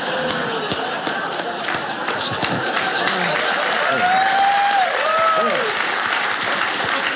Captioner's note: audience laughing; audience applauding